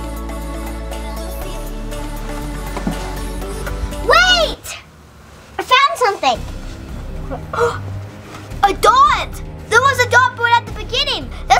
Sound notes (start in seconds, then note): 0.0 upbeat music; 7.1 gasps